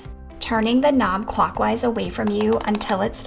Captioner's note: pen clicking